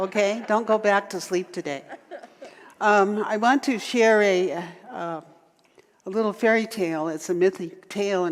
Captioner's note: audience laughter